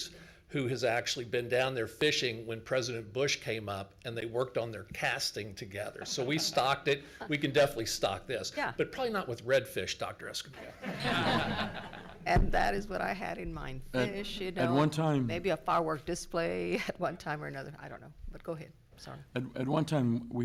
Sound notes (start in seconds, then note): 10.6 everyone laughs